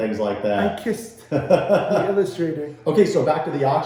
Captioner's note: laughing